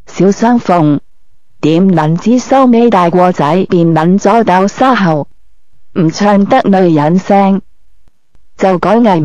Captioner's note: female voice